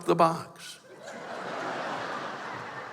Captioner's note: laughter